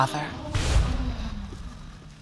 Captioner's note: audience exclaiming